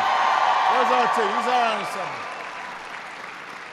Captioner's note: applause